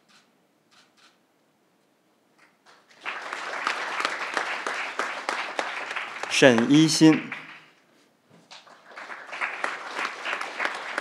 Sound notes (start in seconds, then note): 2.7 crowd applauding